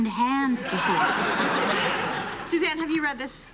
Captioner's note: laughter